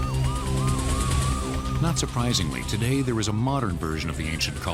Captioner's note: sirens